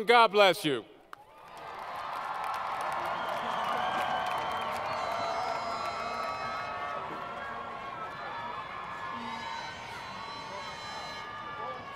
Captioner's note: applause